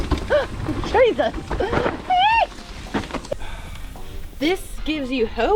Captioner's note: laughing; wheels whooshing; celebrating